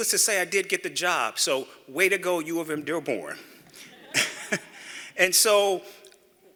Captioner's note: laughter